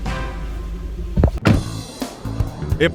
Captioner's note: car door slams